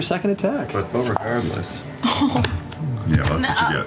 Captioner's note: groans